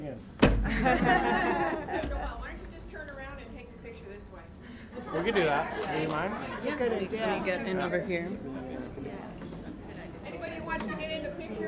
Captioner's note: applause